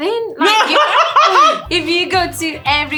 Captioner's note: laughs in Español